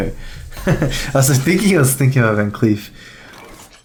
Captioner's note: laughs